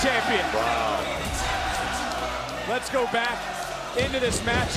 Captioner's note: crowd chants "melo"